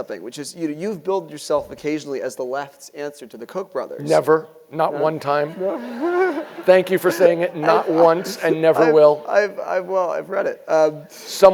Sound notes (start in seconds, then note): 4.9 laugh